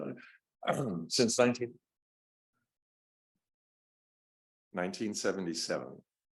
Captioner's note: clears throat